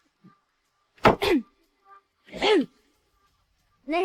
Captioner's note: clears throat